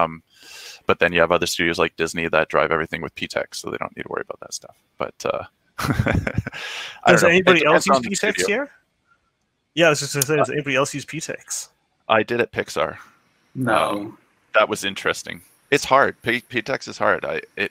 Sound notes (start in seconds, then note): 5.8 laughing